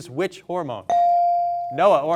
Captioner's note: bell sounding